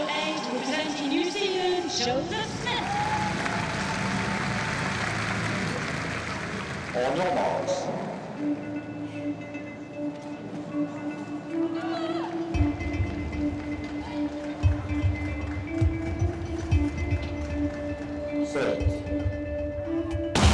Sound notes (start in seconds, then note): 6.9 applause; 16.4 suspenseful music